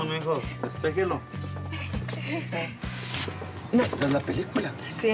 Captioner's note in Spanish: ellos hablan al unísono